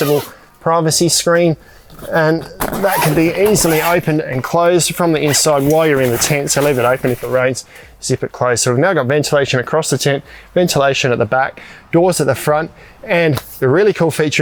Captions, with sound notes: (zipper squealing) privacy screen. And that (zipper squealing) can be easily opened and closed from the inside while you're in the tent. (fabric rustling) So leave it open, if it rains, zip it closed. So now we've now got ventilation across the tent, ventilation at the back, doors at the front, and the really cool feature in here,